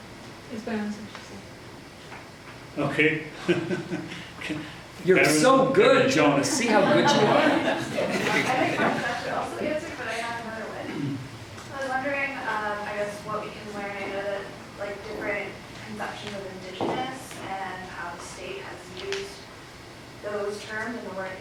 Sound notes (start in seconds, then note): 3.4 laughing; 6.4 audience laughs